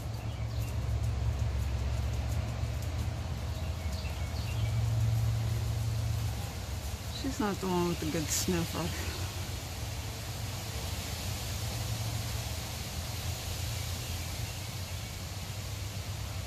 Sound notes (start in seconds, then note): 3.4 birds are constantly chirping and whistling